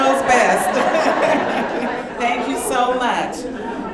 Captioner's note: audience laughing